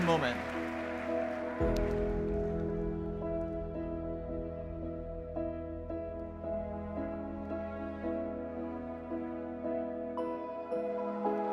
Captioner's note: cheering